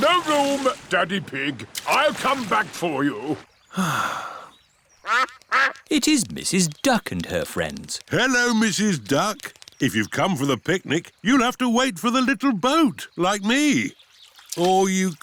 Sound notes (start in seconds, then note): 3.7 sighs; 5.0 quacking